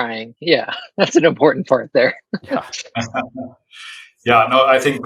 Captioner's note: laughs